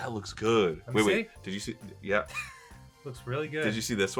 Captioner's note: laughs